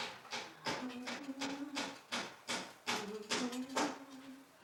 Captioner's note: humming